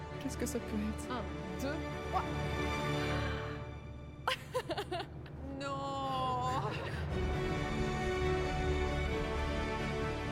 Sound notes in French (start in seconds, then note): 3.0 inspiration profonde; 4.3 rire; 6.8 musique émouvante